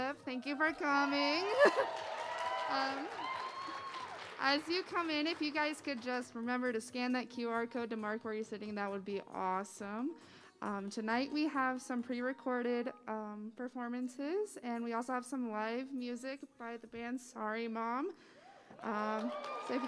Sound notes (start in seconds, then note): 0.4 applause